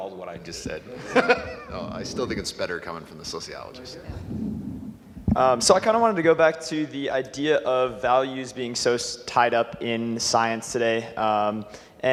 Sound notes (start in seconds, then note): 0.9 laughing